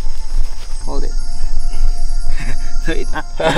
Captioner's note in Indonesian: laugh